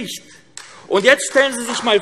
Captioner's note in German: Beifall AfD